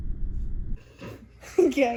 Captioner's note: giggles